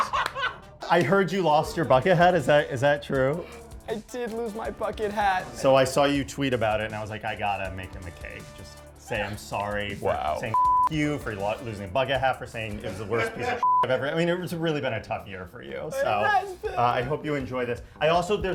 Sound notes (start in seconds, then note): 0.0 everyone laughing; 10.5 beep; 13.6 beep